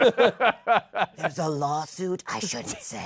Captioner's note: laughter; whispering